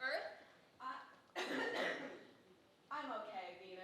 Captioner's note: Earth coughing